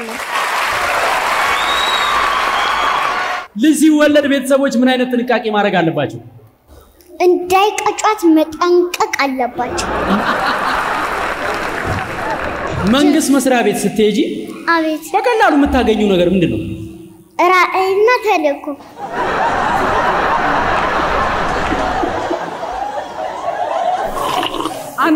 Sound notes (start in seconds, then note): 0.0 applause; 9.6 laughter; 18.9 laughter